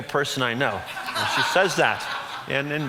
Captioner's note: audience laughs